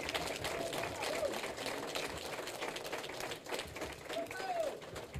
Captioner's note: applause